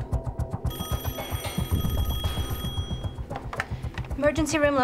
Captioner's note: telephone ringing